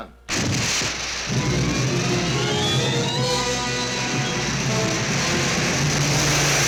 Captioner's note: explosion hissing; rockets whooshing over tense orchestral music